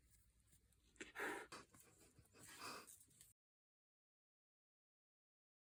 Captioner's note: hiss